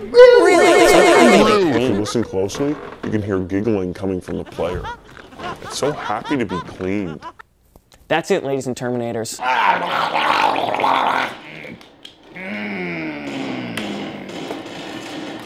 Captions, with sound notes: Really! R-r-r-r-really! It's so happy to be cleaned. If you listen closely, you can hear giggling coming from the player. It's so happy to be cleaned. That's it ladies and terminators. [Gurgling] [Groaning]